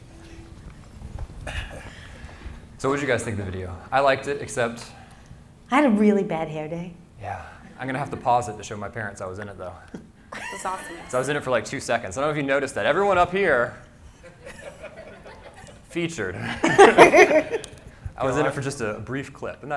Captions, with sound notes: So what'd you guys think the video? I liked it except? - I had a really bad hair day. - Yeah, I'm gonna have to pause it to show my parents I was in it though. - It's awesome. - So I was in it for like two seconds. I dunno if you noticed that. Everyone up here, (audience laughing) featured. (panelists laughing) I was in it for just a brief clip and that-